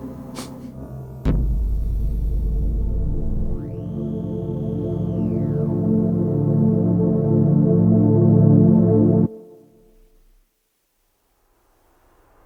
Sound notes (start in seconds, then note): 1.8 rocket clacks; 5.2 dramatic music fades